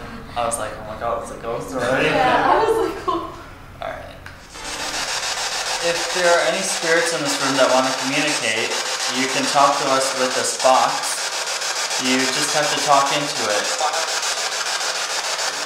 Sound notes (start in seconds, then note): 4.8 static